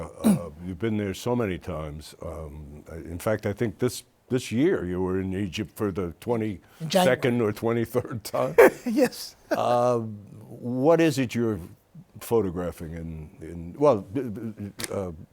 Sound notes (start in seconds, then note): 8.4 chuckles; 8.4 laughs